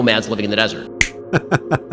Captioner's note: snap; chuckles